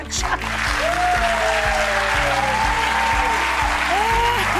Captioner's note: audience applause